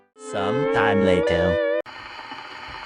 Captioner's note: in Spongebob meme voice